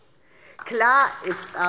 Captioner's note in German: Beifall DIE LINKE